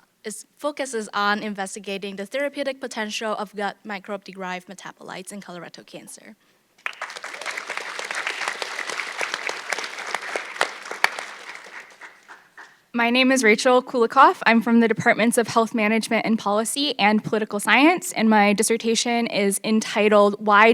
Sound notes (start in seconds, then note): 6.8 audience clapping